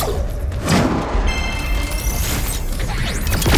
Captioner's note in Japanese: ピューンという発射音